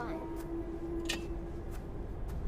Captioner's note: creaking